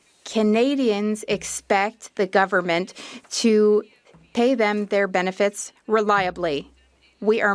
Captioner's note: speaking French